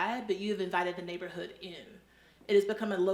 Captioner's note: none